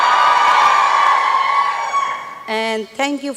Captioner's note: applause and cheering